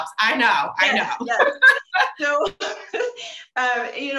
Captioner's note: both laughing